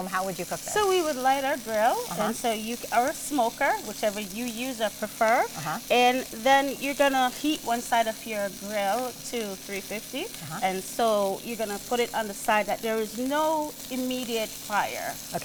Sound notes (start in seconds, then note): 5.7 chicken sizzles